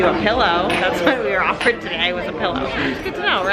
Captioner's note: laughs